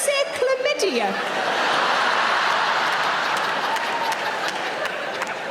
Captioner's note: audience laughing